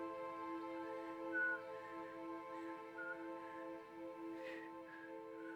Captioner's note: Randy whistles